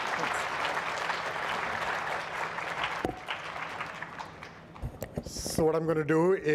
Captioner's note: audience applauds